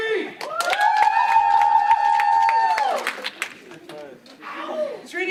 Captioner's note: clapping and cheering